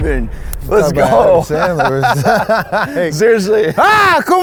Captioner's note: laughs